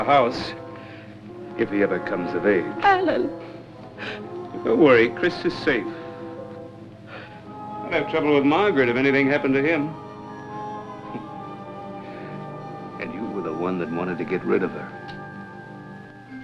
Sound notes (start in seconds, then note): 7.0 sighs; 11.1 chuckles